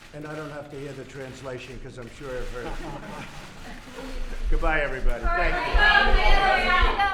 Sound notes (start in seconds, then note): 2.6 laughter